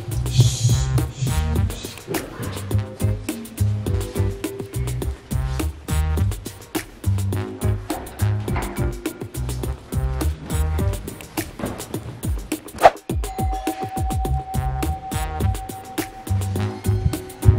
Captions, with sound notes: Sh, sh, sh, come on. (doorbell chimes)